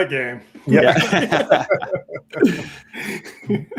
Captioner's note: laughs